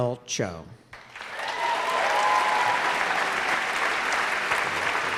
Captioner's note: applause